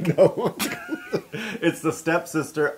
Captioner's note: laugh